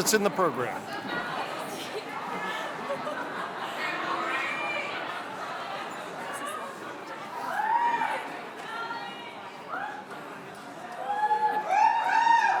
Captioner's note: chatter